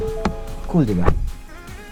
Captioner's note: door thuds